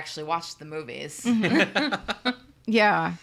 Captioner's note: laughs